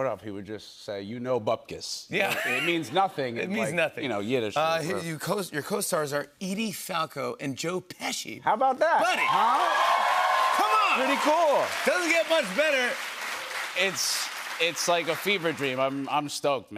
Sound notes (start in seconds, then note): 9.6 cheers and applause